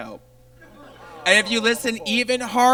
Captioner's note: audience laughs